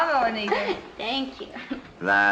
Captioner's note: chuckling; hoppy chuckles